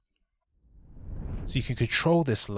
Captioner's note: swooshing